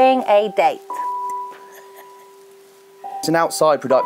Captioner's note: laughs